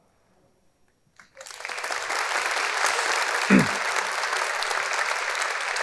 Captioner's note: audience applauding